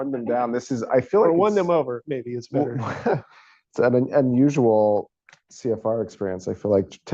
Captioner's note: laughs